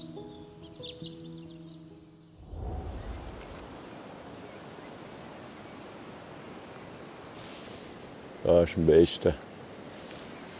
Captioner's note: birds Chirping